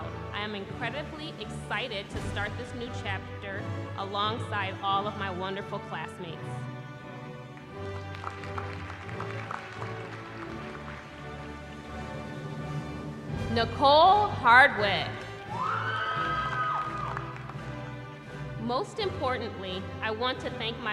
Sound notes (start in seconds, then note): 7.4 applause; 15.4 cheering